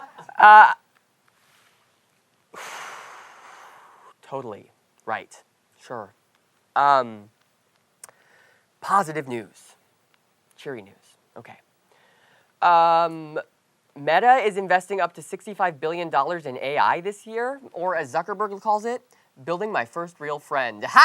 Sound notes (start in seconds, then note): 2.5 deep frustrated exhale